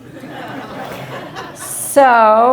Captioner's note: laughter